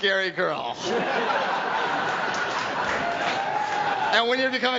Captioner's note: audience laughs